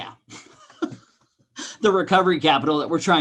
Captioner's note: man laughing